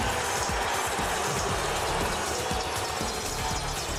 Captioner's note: crowd cheering